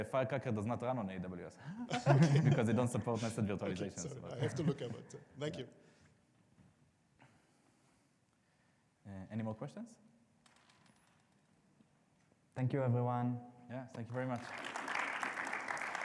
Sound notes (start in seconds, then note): 1.8 audience laughing; 14.1 audience applauding